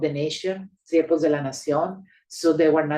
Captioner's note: speaking Spanish